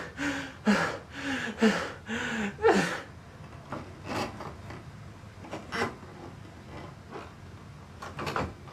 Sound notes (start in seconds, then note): 3.6 floor creaking